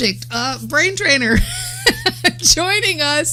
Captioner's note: laughs